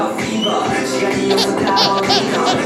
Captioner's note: crying